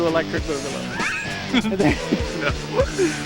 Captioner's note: laughs